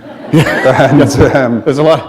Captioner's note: laughter